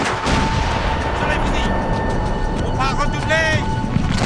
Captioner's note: guns banging; soldier shouting in French